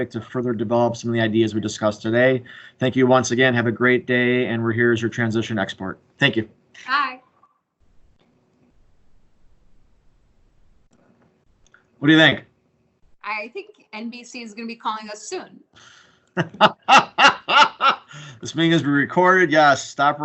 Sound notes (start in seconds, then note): 16.3 laughing